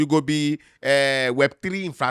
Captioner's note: none